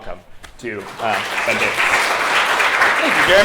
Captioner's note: applause